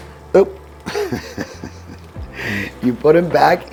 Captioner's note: laughing